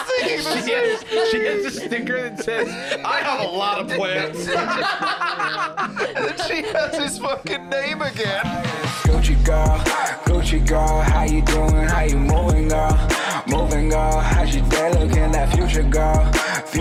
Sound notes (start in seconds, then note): 5.2 all laughing; 7.6 outro music